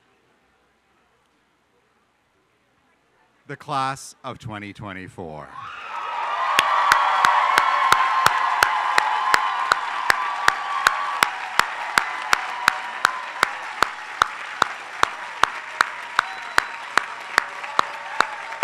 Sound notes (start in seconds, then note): 5.9 applause